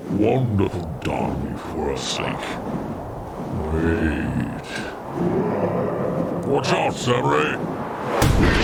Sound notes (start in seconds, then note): 2.5 roar